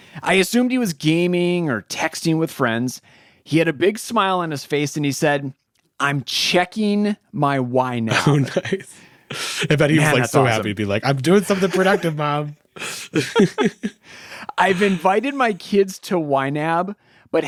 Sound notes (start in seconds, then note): 12.8 both laughing